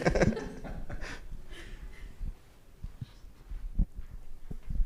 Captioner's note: audience laughs